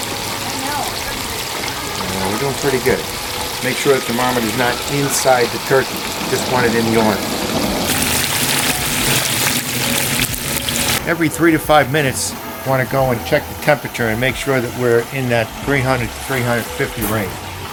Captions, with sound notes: We're doin' pretty good. Make sure the thermometer's not inside the turkey. You just want it in the oil. (oil sizzling) Every three to five minutes, you wanna go and check the temperature and make sure that we're in that 300 to 350 range.